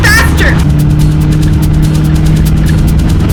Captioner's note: car accelerates